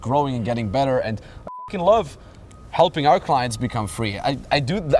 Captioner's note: beep